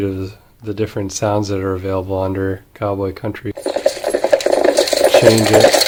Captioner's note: sound of horses galloping